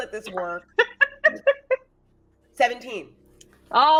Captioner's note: laughing